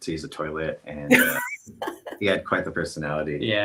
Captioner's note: laughing